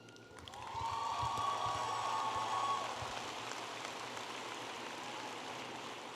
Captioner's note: audience applauding and cheering